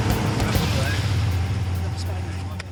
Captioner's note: boat engine revving; dramatic music